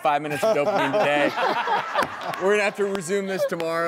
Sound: laughing

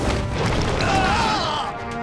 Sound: screaming

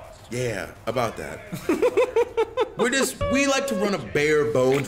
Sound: laugh

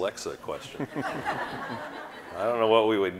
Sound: audience laughing

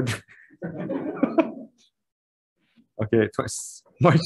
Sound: committee members laughing

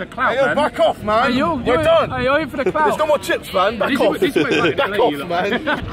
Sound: laughing and screaming

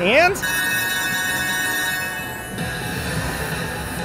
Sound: bell ringing

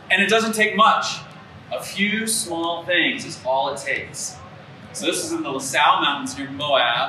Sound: none

